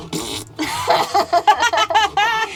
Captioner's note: fart noise; laughing